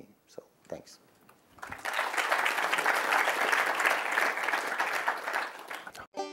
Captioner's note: clapping